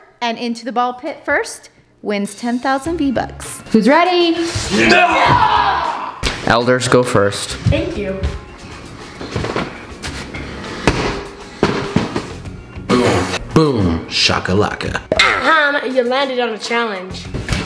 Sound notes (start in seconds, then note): 4.7 grunting